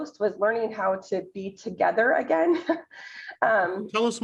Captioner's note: chuckles